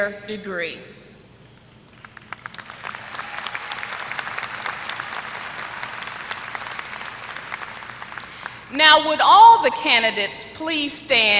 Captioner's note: applause